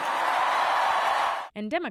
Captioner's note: applause; cheering